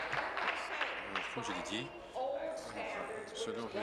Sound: applause

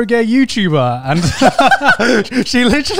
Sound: laughing

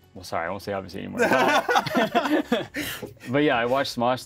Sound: both laugh

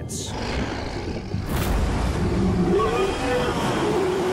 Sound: Pliosaurus roaring

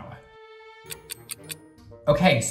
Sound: clock ticking

